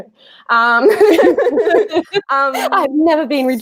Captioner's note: laughing